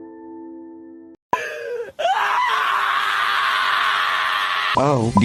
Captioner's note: despair wail, much despair